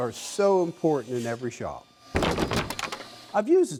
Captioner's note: wood clatters